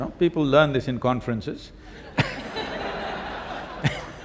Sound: laughter

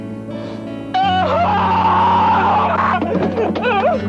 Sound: screaming; thud

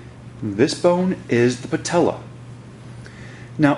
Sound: voiceover

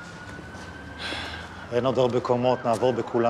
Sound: sighs

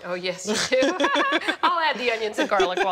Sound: laughing

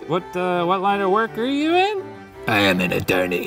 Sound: none

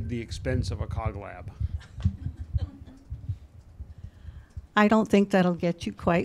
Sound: chuckles

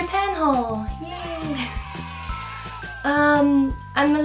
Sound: cheer

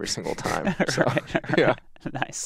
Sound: laughs

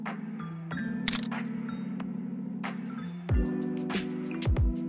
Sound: camera clicking

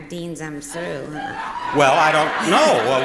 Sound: audience laughing

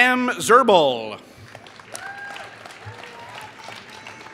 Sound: applause

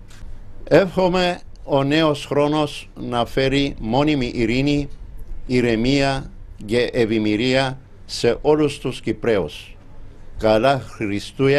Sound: in Greek

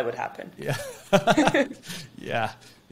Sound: chuckles

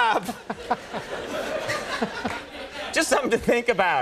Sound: laughter

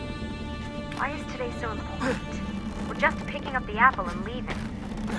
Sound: Lucy through radio

